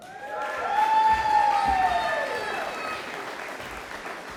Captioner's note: audience applauding